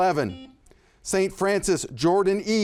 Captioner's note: buzzer buzzes